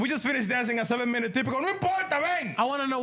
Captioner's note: speaking Spanish